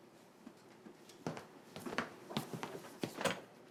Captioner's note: footsteps